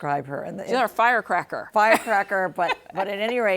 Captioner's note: laughs